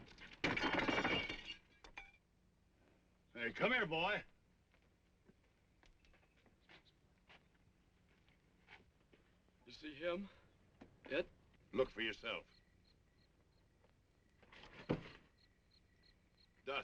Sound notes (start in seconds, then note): 0.2 glass breaking; 13.3 insects chirping